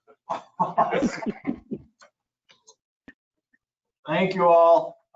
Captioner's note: group laughing